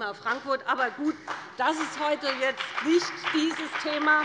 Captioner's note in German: Heiterkeit und Beifall bei dem BÜNDNIS 90/DIE GRÜNEN und der CDU